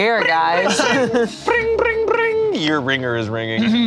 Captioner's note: imitates ringing